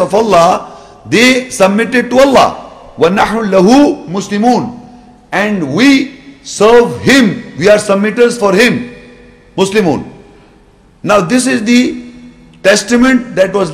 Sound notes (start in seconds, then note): 3.1 Arabic